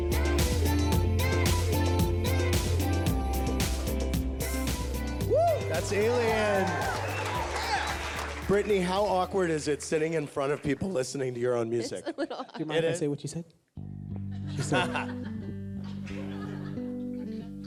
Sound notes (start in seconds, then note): 7.0 cheers and applause